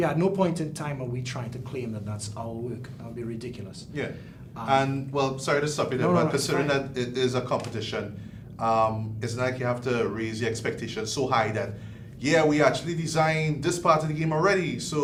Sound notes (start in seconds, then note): none